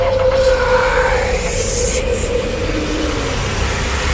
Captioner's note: sinister Voice